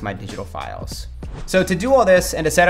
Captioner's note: transition whooshes